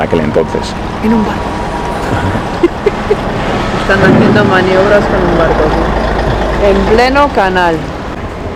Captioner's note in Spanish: Risas